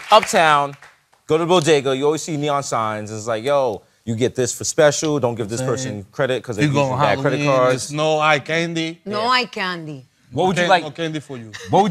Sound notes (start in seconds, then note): 8.6 spanish